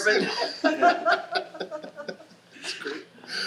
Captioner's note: panelists laughing